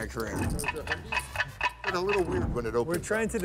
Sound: clock ticking

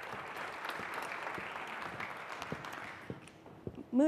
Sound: applause

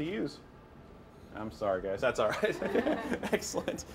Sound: laughs

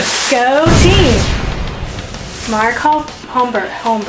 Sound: explosion booming

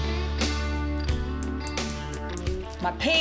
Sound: hammering

